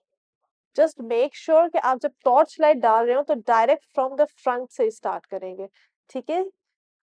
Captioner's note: in Urdu